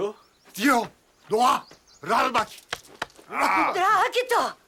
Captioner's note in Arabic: الصوت المنطوق البدوي